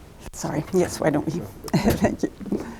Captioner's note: laughs